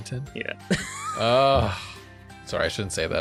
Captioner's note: laughs